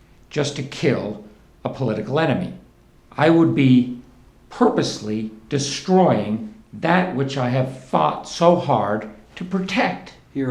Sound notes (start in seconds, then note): none